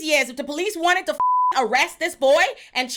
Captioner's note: beep